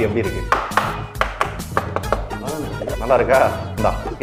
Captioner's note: tapping